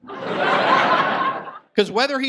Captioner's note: audience laughs